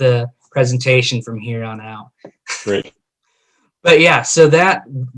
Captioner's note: laughing